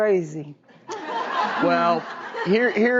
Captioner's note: audience laughs